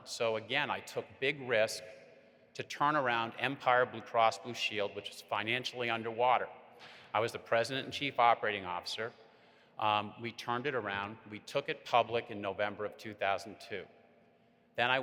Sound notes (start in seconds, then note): none